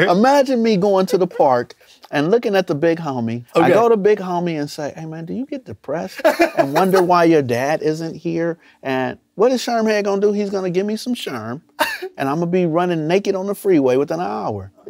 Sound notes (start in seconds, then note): 6.2 laughs; 11.6 chuckles